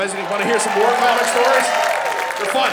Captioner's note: audience cheering